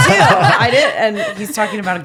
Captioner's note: laughing